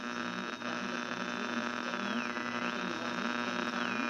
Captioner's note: speaker buzzes